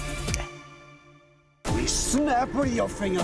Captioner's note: snaps fingers